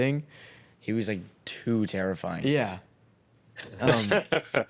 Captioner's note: laughs